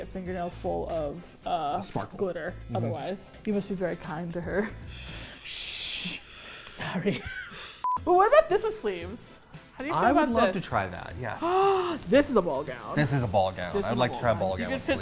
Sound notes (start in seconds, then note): 6.8 whispers; 11.4 gasps